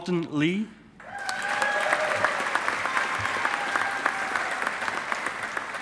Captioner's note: audience applauding